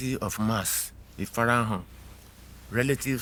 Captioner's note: speaking in foreign language